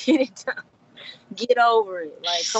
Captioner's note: laughing